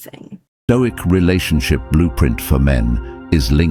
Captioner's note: AI Voice